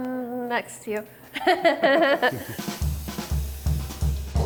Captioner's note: laughs